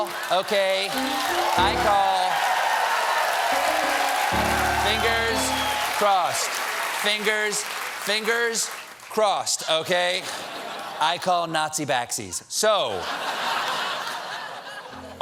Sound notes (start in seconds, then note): 0.0 cheers and applause; 10.1 laughter